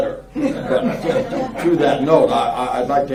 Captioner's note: laughing